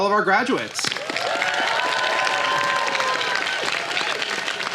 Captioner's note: applause